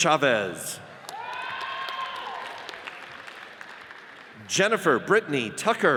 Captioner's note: audience cheers and applauds